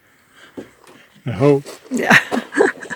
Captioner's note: laughs, yeah